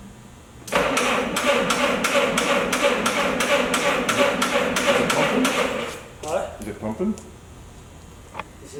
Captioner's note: engine cranking